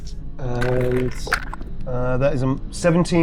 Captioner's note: dice rolling